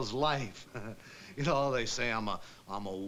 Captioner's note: chuckles